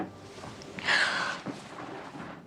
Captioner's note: sigh